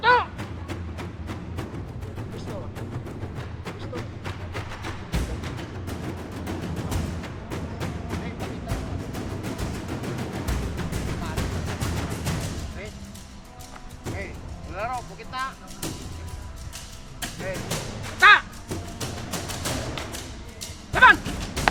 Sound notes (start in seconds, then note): 0.1 referee speaks in Tagalog; 5.3 thrilling music continues; 15.0 referee speaks in Tagalog